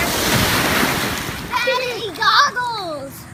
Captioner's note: waves crashing